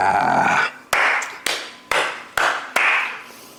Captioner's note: clap